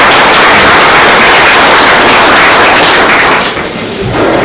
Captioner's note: oklaski